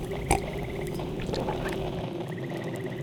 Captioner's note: sips